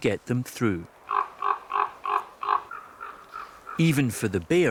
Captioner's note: bird caws